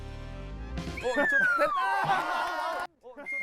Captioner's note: whistle~